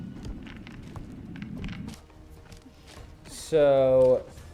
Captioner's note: ice cracking